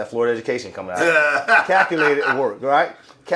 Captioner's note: laughing